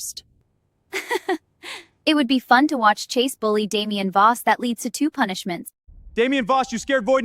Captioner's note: laughs